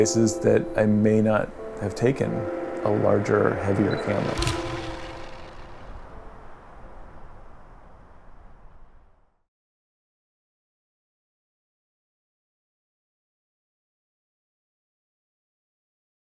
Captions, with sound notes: that I may not have taken a larger heavier camera. (camera shutter)